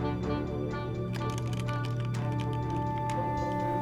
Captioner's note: keys clacking